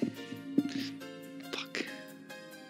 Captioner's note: whispered